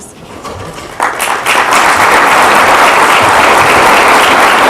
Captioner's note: audience clapping